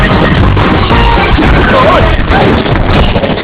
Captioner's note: music slows, stops; all groaning, grunting